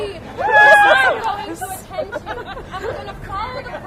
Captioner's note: cheers